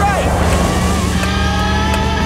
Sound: clicking

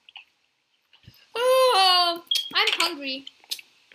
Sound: yawn

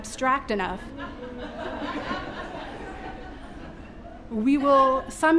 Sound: audience laughing

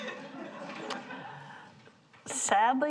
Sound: audience chuckles

